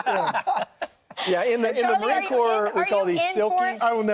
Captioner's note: laughter